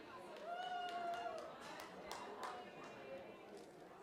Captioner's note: cheering, applause